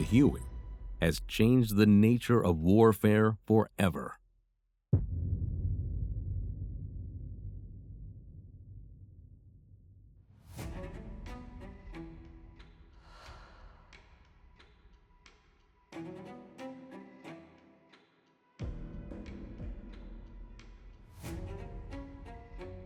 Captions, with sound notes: Huey has changed the nature of warfare forever. (dramatic boom) (dramatic music)